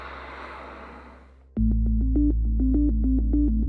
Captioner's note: water spraying; low urgent music